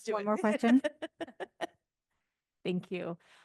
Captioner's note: laughing